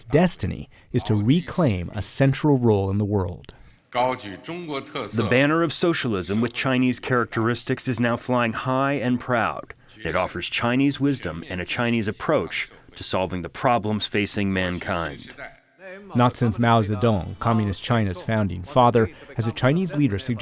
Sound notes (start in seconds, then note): 4.9 through translator